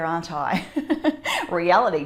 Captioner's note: laughing